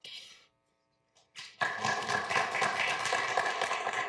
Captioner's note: applause